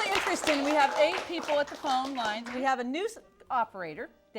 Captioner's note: applause